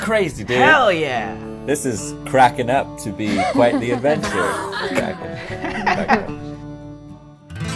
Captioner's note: laughter